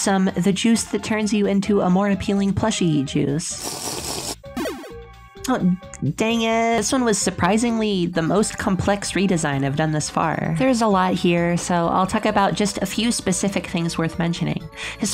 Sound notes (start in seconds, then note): 3.6 sip sip sip